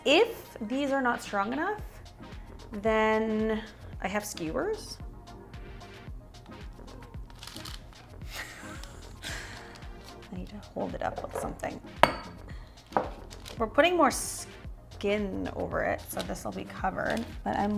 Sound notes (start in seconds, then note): 6.3 paper rustling sound; 8.7 muffled laugh sounds; 12.0 glass clanking sounds